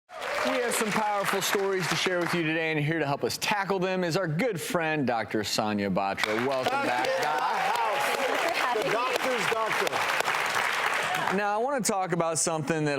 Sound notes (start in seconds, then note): 0.1 applause; 6.1 applause